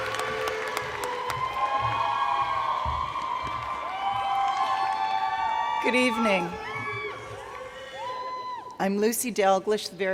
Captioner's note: cheers and Applause